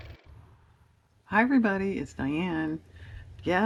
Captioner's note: car motor